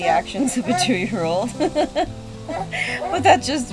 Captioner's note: laughs